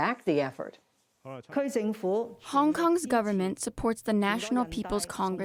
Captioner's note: through translator